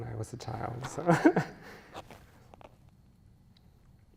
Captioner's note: chuckles